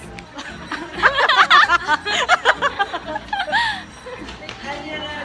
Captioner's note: laughter